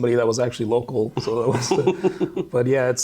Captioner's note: both laughing